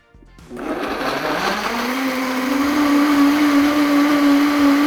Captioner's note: blender whirring